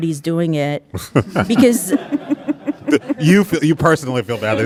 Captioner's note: audience laughing